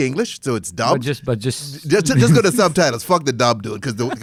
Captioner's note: laughs